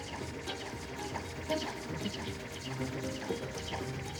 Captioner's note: electronic beeping